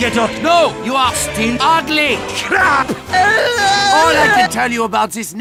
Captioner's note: sobs